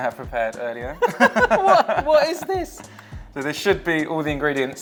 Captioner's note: both laughing